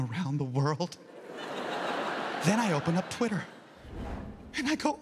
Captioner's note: audience laughs